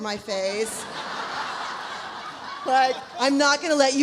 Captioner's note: audience laughs